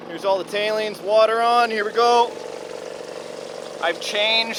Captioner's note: water splashing